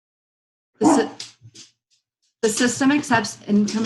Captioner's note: coughs